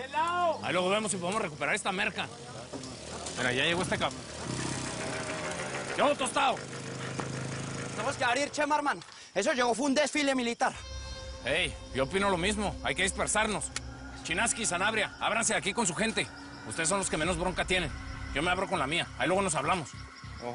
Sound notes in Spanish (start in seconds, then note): 3.0 Ruido de un motor acercándose; 6.1 Ruido del motor